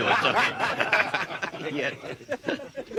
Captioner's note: all chuckling